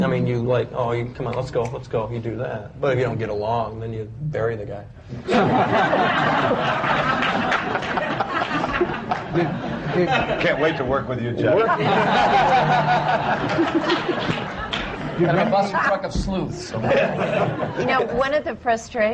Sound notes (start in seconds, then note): 5.2 laughter; 10.9 laughter and voices overlap